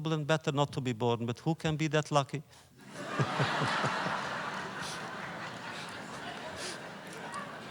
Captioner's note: laughter